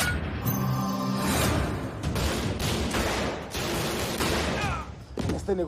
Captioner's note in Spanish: Disparos